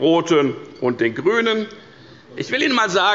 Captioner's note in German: Zurufe von der SPD